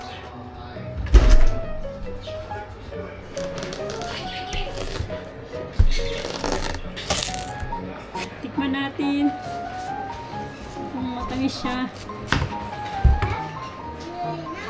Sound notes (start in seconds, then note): 7.1 sighs